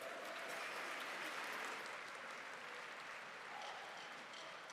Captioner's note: applause